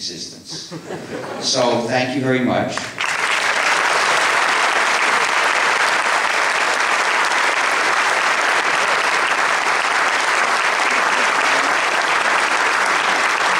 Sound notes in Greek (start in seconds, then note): 2.7 Παρατεταμένα Παλαμάκια από το ακροατήριο